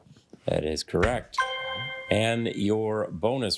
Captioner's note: triumphant chime